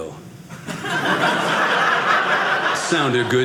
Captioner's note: audience laughing